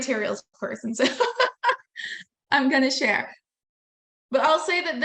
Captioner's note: laughing